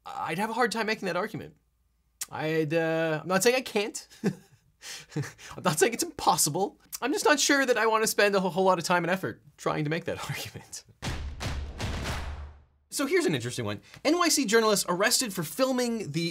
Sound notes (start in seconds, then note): 4.1 chuckles; 11.2 upbeat instrumental music